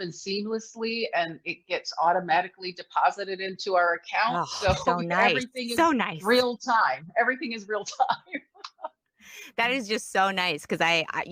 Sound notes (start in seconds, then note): 7.9 laughs